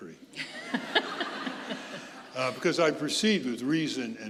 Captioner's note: audience laughing